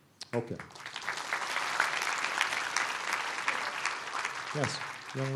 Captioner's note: applause